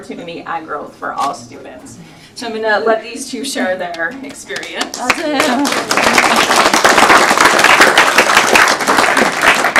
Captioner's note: applause